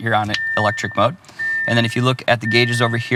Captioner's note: dinging start sound